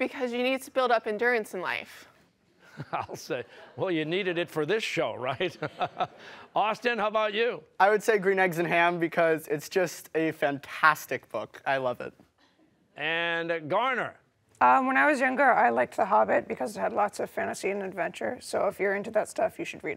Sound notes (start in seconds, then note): 2.7 chuckling